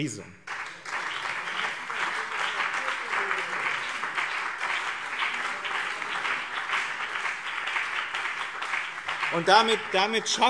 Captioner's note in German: Beifall BÜNDNIS 90/DIE GRÜNEN und CDU